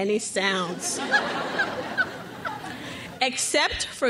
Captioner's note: crowd laughs